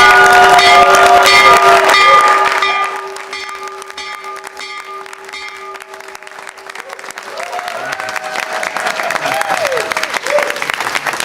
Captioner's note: applause